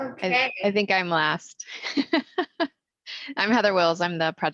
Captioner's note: laughs